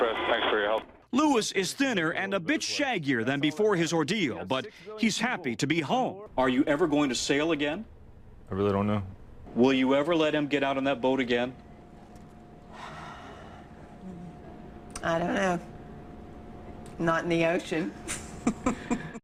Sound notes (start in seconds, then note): 12.7 deep sigh